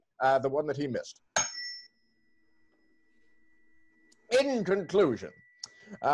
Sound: tuning fork dings

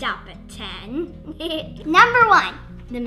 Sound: giggles

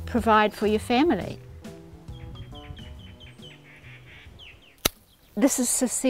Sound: bird song

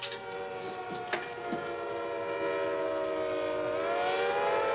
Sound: siren continues

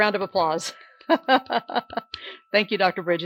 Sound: laughs

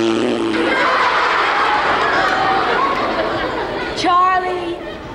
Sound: audience laughs

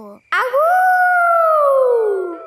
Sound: howling

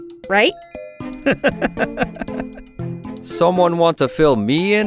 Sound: laughing

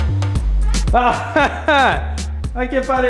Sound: laughs and points to the monitors

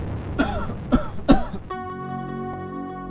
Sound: REPORTER #2 coughs

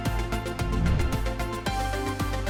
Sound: bright upbeat music continues; air whooshing; bright upbeat music continues

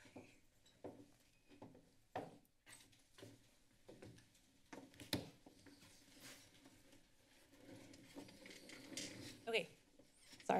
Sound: silence; footsteps

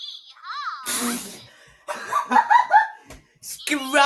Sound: laughs

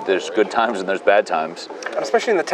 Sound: none

